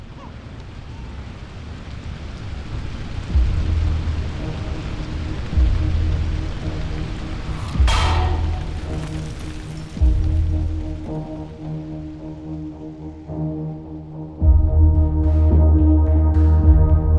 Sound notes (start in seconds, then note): 0.4 disheartening music; 7.3 metal clanking together